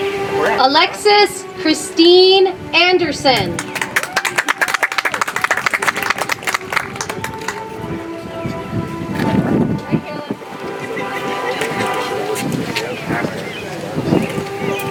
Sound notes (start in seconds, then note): 3.5 audience applauds; 7.5 soft music